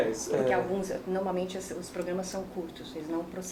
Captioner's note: speaking portuguese